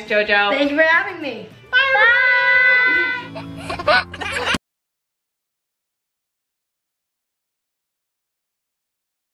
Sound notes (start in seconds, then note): 2.8 laughs